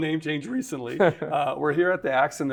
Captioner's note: laughter